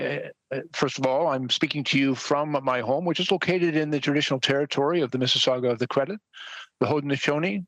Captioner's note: speaking French